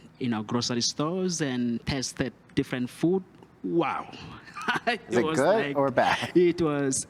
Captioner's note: laugh